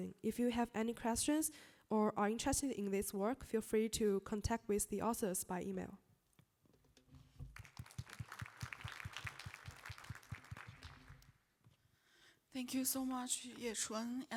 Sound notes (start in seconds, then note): 7.4 applause